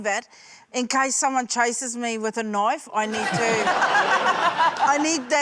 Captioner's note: laughter